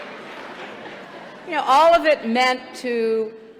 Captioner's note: laughter